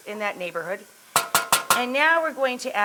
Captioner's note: spoon bangs pot